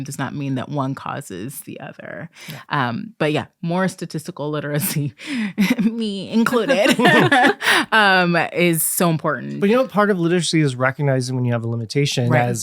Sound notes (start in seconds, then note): 6.5 all laughing